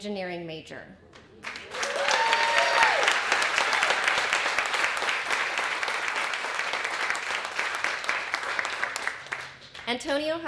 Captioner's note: applause and Cheering